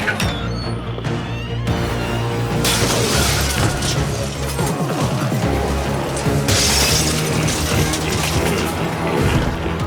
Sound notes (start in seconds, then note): 0.0 door squeaks; 2.6 glass shatters